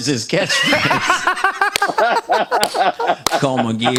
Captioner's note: laughter